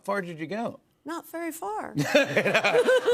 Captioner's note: laughter